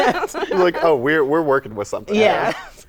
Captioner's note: laughter